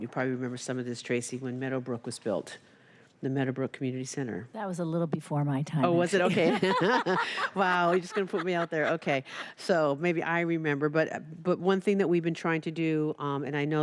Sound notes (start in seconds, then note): 8.8 laughter